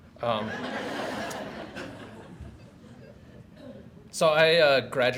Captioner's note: audience laughs